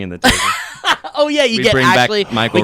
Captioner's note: laughs